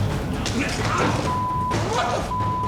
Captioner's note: inmates scuffling